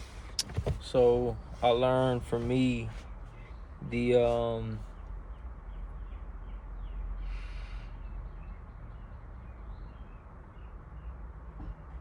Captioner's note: sigh